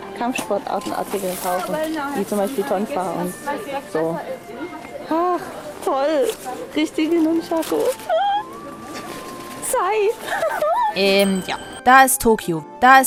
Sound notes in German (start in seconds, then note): 7.8 Begeistertes Quieken; 10.2 jubelndes Lachen